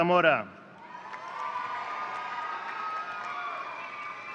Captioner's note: audience cheering